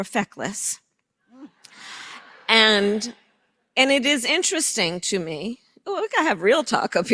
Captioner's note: laughter